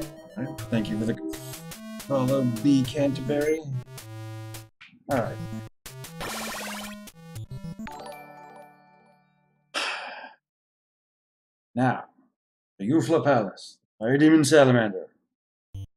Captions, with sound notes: All right, thank you for the follow, b_canterbury. All right. [alert chime] [sighs] Now. The Yufla Palace. Fire demon Salamander.